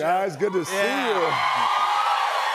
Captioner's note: cheers and applause